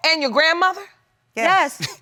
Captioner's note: chuckling